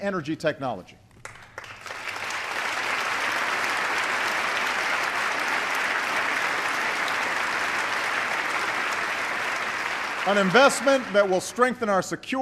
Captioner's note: applause